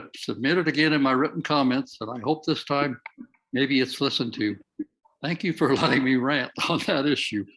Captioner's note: laughs